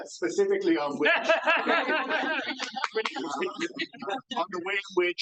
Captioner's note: audience laughs